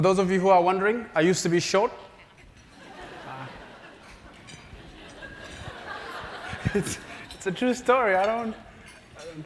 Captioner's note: laugh